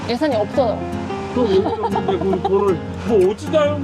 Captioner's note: laughter